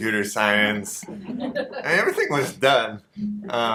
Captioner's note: audience laughter